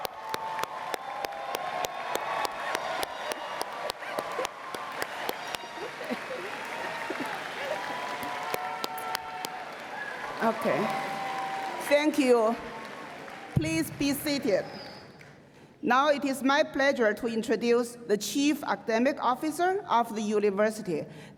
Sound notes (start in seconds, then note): 0.0 cheers and Applause